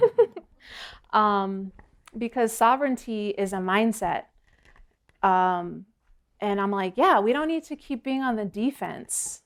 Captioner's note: laughter